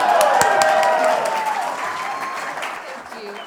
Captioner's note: applause